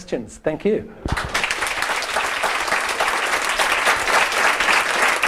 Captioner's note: audience applauding